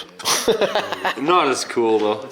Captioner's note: laughing